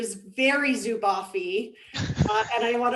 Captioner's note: laughter